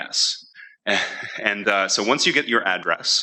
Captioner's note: chuckling